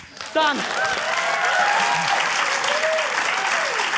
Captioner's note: cheering, applause